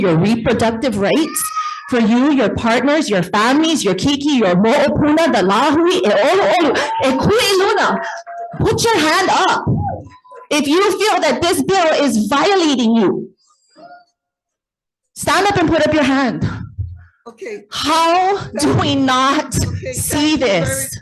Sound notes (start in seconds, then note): 5.5 speaks in foreign language